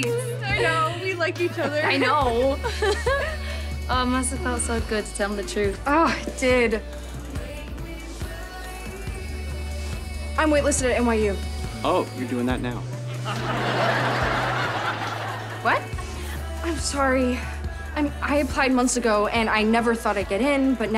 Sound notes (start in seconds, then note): 1.5 chuckles